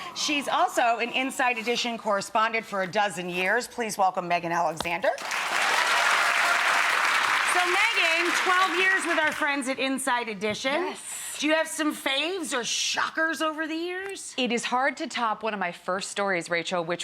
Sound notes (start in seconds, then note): 5.2 audience cheering